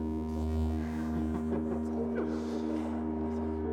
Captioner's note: laughter